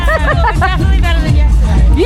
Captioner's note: laughs